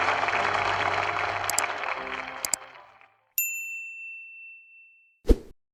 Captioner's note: bell dinging